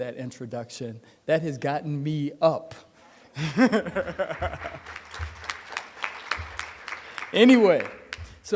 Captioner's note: applause